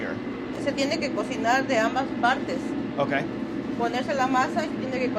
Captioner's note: speaking in foreign language